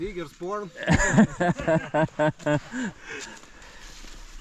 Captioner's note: laughing